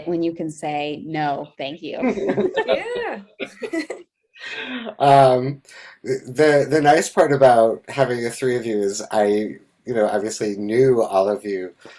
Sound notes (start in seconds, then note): 2.0 laughs